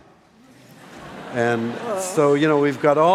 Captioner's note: laughing